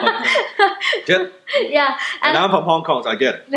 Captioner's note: laughs